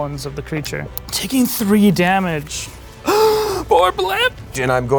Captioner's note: gasps